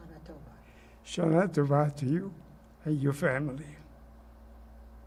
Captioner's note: hebrew